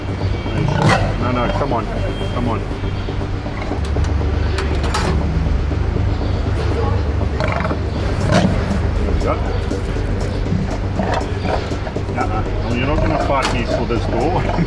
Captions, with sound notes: (lion snarling) No, no, come on, come on. (cage latch clanging) (lion grumbling) Here we go, uh, huh. You're not going to fight me for this door.